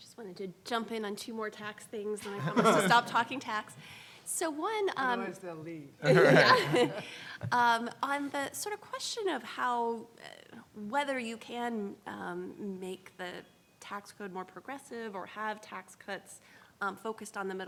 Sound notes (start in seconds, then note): 6.0 laughs